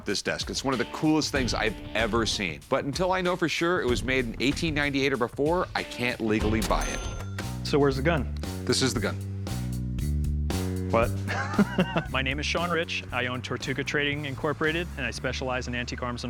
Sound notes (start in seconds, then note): 11.2 laughs